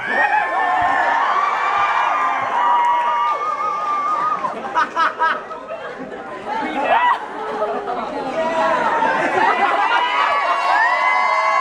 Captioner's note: cheering